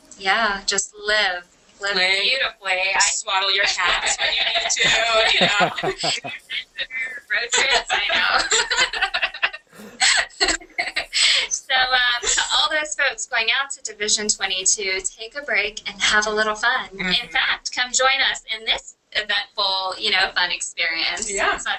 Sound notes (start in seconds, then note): 5.3 laughter; 7.4 laughter